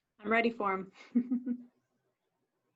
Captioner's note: chuckles